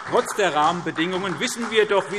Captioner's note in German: Beifall SPD